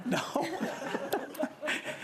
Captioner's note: laughter